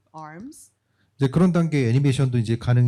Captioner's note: speaking korean